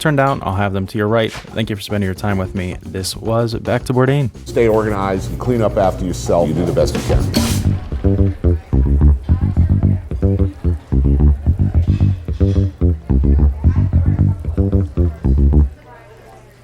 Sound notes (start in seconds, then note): 7.8 crowd conversing; 7.8 upbeat music